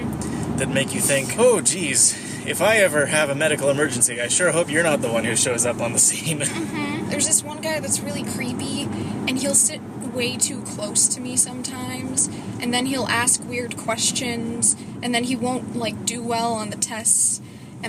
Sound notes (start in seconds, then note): 6.3 laughs